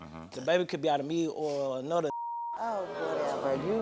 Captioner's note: beep